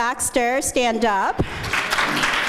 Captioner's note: applause